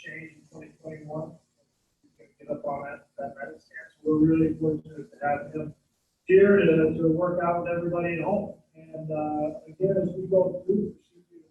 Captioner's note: away from mic